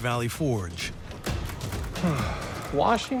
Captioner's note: sighs